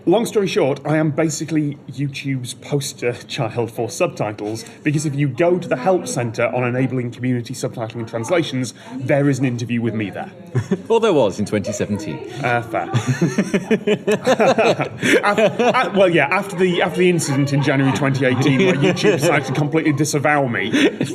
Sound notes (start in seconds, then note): 12.2 laughs